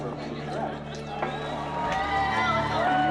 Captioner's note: applause